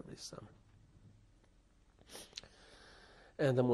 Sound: pauses for 3 seconds

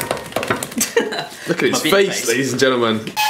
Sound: laughing

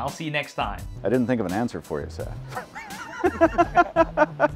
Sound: laughing

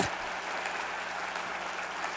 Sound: applause

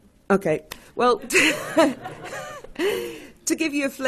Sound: laughing

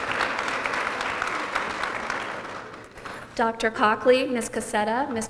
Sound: applause

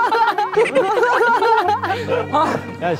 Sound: kekeke

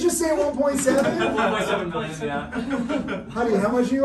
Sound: everyone laughing

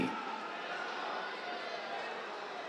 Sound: cheers

